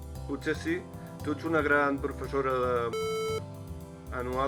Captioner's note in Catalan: piiiip